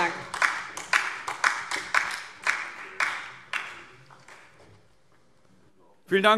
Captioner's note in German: Beifall DIE LINKE und vereinzelt Freie Demokraten